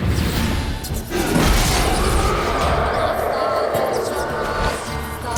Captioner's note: ghostly howl